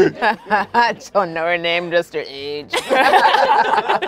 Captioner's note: laughing; laughing